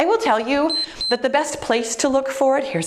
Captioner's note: timer beeps